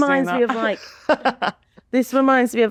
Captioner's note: laughing